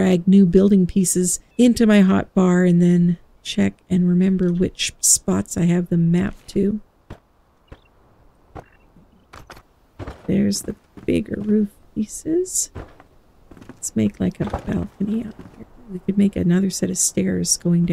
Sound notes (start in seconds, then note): 7.2 birds chirping